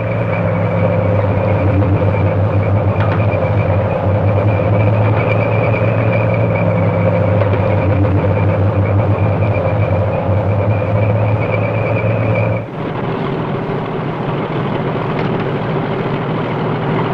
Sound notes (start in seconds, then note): 0.8 revving